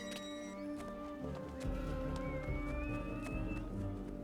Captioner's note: whistling